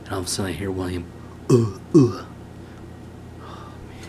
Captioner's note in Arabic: السعال